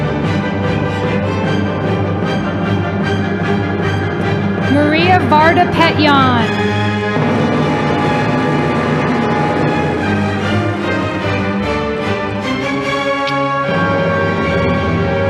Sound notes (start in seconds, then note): 7.5 audience applauding